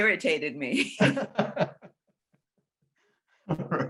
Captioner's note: laughing